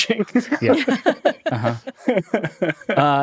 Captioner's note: all laughing